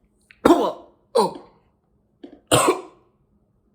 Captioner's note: Chuck coughing